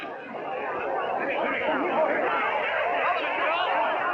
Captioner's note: chattering